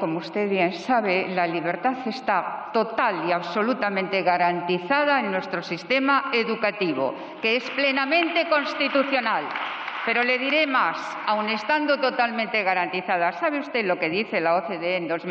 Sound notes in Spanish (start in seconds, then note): 7.5 Aplausos